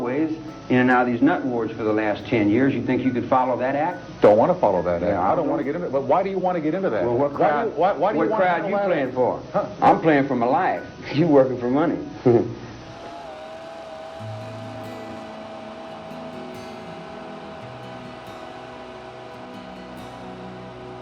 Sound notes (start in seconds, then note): 12.5 chuckles; 13.1 camera humming; 16.5 somber music